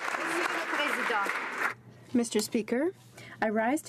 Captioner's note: applause